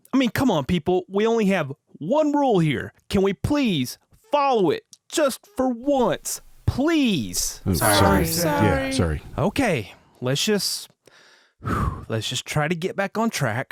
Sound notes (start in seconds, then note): 11.5 exhales